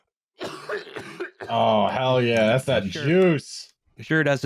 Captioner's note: coughing hard from far away